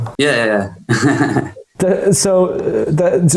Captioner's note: chuckles